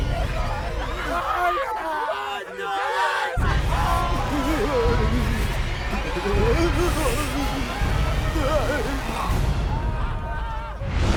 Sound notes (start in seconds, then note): 3.9 groans, whimpers